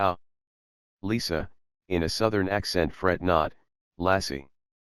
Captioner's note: in a Southern accent